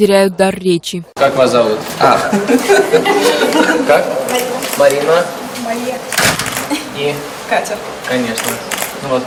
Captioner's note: student laughing